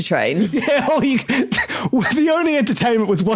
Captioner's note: laughs